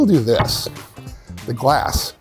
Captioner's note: door clicks